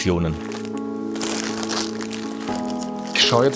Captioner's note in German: Rascheln, sanfte Musik